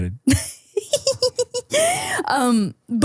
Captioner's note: people laughing